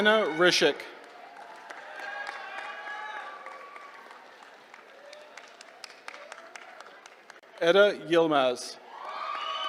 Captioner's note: applause